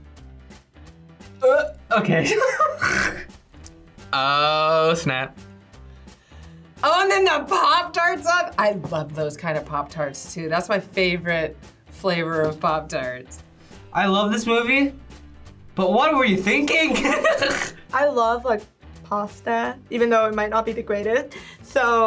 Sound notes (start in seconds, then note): 2.1 laughs; 17.0 laughs